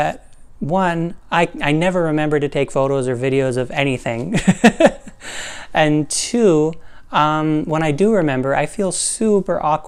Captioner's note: laugh